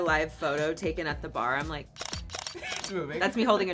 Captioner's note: camera clicking